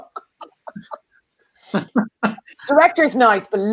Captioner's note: laughter